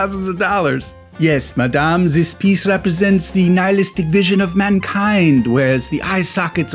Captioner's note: foreign accent